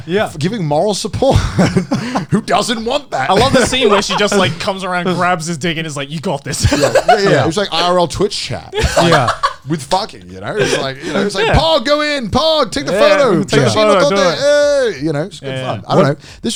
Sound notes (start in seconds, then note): 13.3 exclaims in Japanese